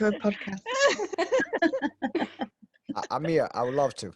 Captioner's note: all laugh